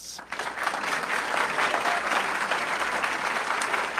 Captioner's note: audience clapping